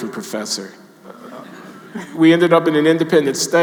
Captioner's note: audience laughing